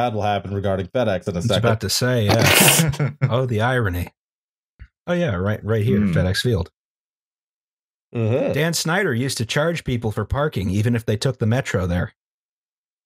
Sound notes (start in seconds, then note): 2.8 laughter